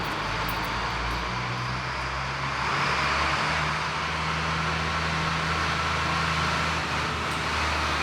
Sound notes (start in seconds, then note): 1.4 vehicle accelerating